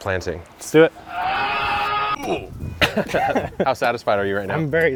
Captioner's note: yelling